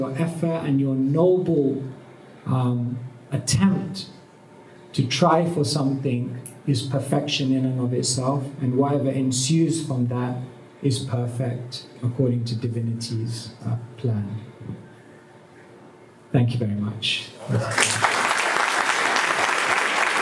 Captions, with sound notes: effort and your noble attempt to try for something is perfection in and of itself. And whatever ensues from that is perfect, according to divinity's plan. Thank you very much. (Applause)